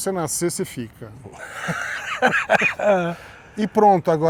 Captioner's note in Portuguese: risos